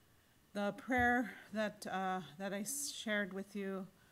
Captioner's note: in English